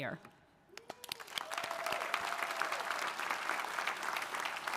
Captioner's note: audience applauding